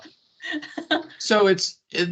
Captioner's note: laughing